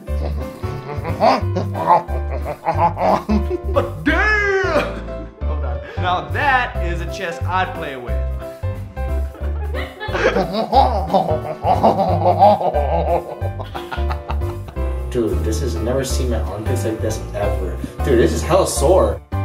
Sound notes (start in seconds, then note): 0.0 stereotypical French laughter; 5.1 laughs; 9.3 laughter; 9.4 stereotypical French laughter; 13.6 cracking up